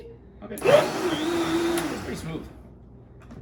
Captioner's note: blender whirs